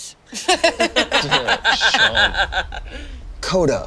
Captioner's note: all laugh